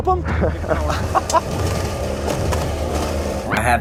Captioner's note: laughing